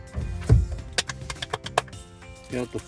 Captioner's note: clapping